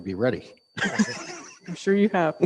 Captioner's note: laughs